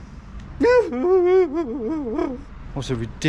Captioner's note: whimpering